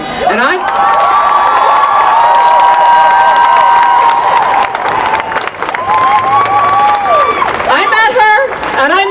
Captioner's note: applause